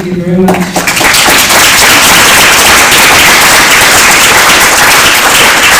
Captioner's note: applause